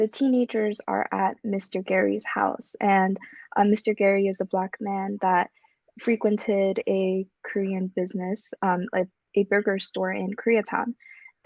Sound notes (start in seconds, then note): none